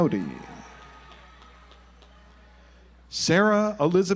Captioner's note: audience applauds